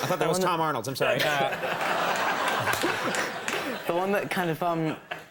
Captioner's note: crowd laughs